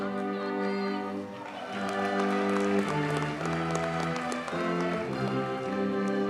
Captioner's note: audience cheers and applauds